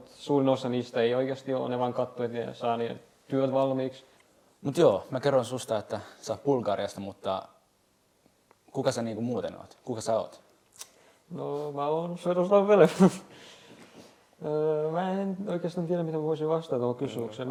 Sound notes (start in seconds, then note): 12.8 laughs